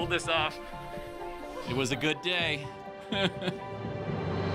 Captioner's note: chuckles